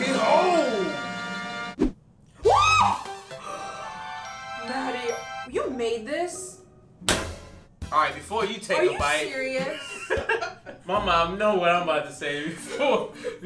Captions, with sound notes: Behold! (screaming) (romantic music) - You made this? (slapping) - All right, before you take a bite-- - Are you serious? (laughing) - My mom know what I'm about to say,